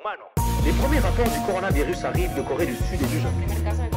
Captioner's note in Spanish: reportero habla en francés